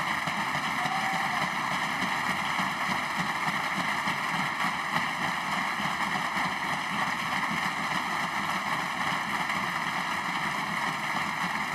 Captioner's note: applause